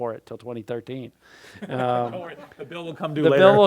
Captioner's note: laughs